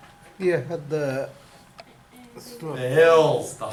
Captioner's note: voiceover